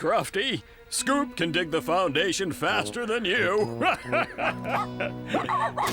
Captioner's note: chuckling